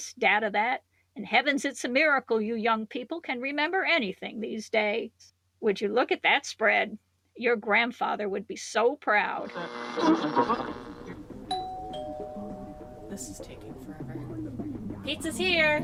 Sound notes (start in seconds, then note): 11.1 radio static; 11.5 doorbell rings